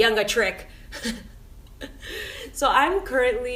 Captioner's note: laughing